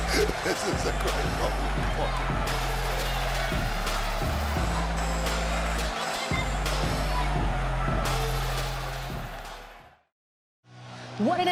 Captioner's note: laughs